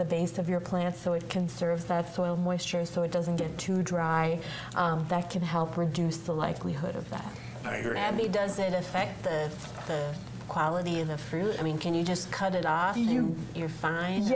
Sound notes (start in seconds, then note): none